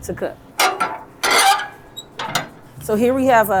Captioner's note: smoker clanks